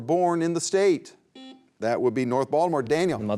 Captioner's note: beep